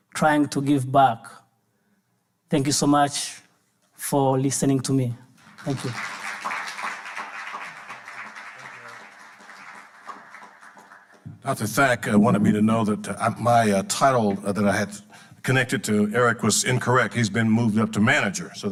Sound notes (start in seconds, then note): 5.4 audience applauding